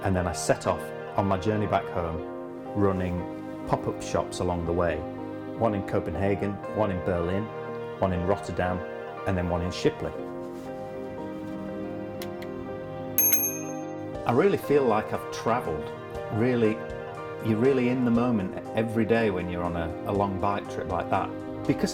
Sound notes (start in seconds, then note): 13.2 bike bell rings